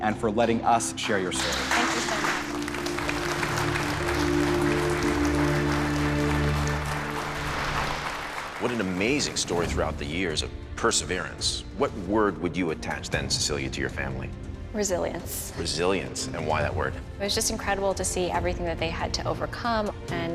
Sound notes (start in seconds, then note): 3.9 applause